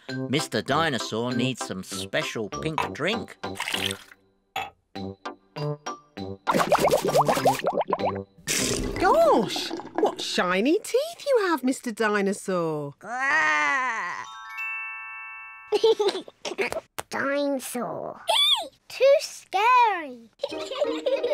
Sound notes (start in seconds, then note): 6.7 bubbles; 15.7 giggles; 20.4 both giggle